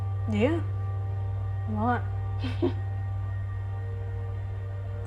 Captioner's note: chuckles